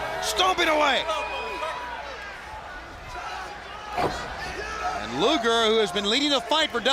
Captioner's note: crowd cheering